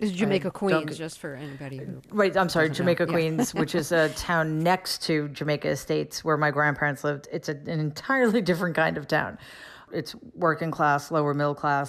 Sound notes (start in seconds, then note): 2.7 laughter